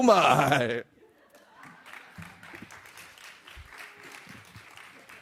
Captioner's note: audience applauding